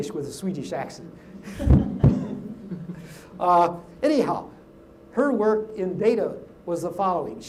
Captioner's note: laugh